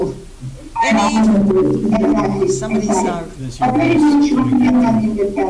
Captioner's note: echo continues; microphone echoes over speakers